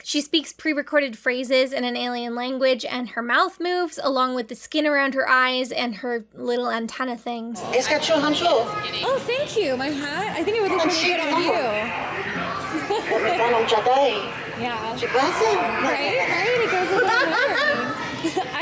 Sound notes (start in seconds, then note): 7.7 Ouannii speaking alien language; 13.3 Ouannii speaking alien language